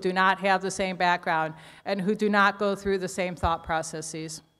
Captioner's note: none